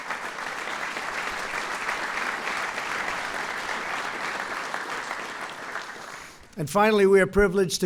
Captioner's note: applause